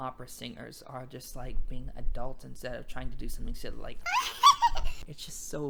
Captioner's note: cries